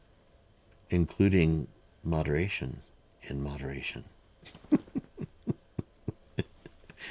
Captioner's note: laughs